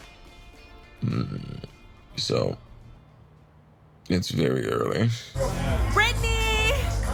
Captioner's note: groans; energetic dance music